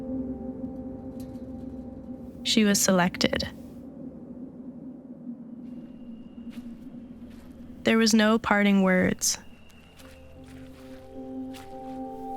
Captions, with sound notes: She was selected. (footsteps) There was no parting words. (footsteps crunching)